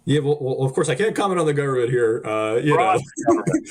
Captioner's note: chuckling